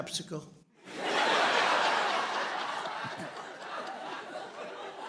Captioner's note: laughter